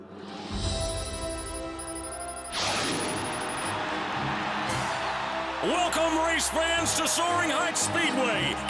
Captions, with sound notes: (JET WHOOSHES BY OVERHEAD) WELCOME, RACE FANS, TO SOARING HEIGHTS SPEEDWAY!